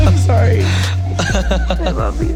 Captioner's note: laughing